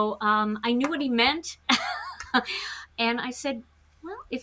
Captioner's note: chuckles